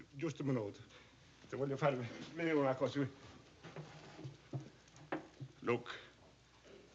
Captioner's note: non-english speech